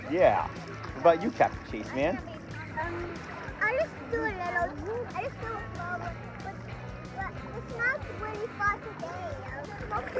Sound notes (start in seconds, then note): 2.7 water splashing; 7.5 upbeat music